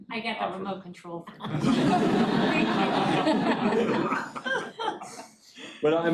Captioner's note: audience laughing